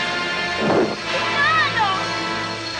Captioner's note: Gitano snorts!